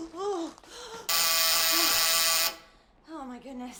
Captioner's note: doorbell buzzes